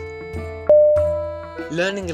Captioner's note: ding!!!